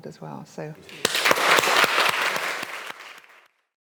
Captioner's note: audience applauding